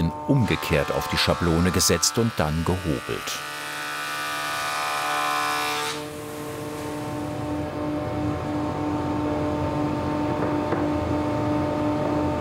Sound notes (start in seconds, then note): 6.0 loud whirring; 10.6 loud machine humming